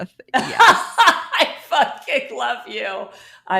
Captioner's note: laughs